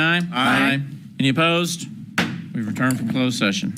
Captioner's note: gavel bangs